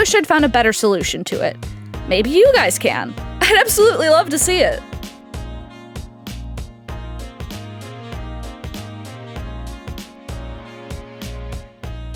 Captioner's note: excited